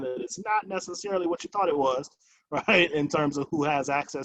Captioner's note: chuckles